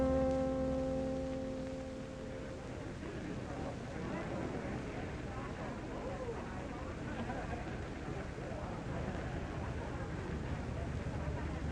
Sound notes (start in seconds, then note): 6.6 people chattering